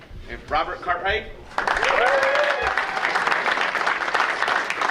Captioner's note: audience cheering